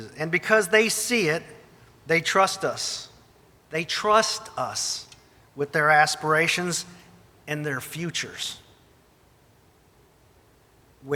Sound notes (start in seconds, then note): none